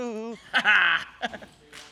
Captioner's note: chuckles